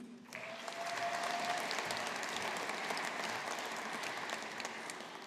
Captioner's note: audience applauding